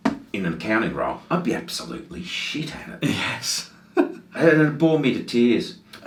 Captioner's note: chuckles